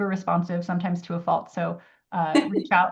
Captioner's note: laughs